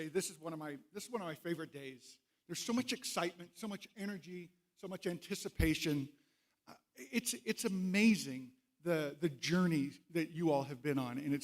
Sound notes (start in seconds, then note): none